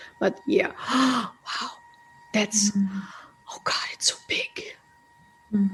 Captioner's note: sighs